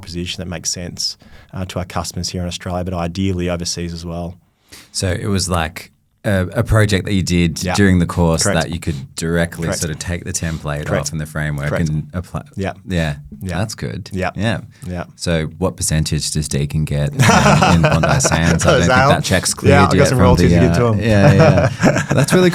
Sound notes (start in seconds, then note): 17.1 laughing